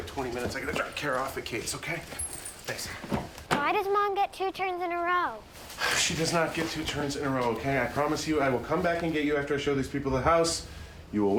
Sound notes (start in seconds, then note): none